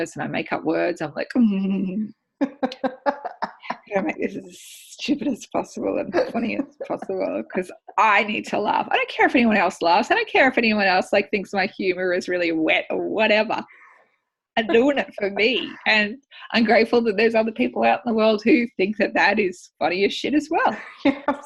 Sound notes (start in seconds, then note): 2.4 laughing; 2.5 mischievous chuckle; 21.2 laughing